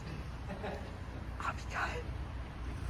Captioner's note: whispers